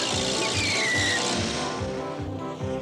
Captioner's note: screech